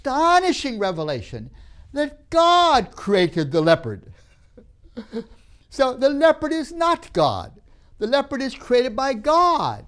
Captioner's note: laughs